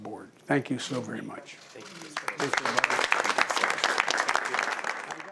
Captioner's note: applause